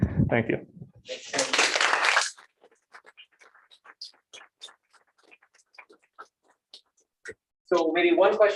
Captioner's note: applause